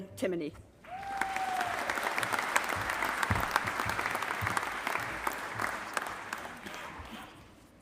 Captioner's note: applause